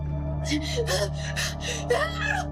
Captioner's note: Maya panting; Maya groans